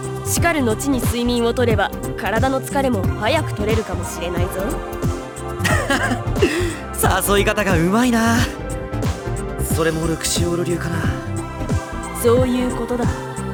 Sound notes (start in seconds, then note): 5.3 laugh